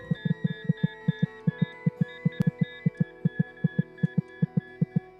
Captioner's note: heartbeat